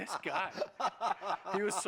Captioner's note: laughter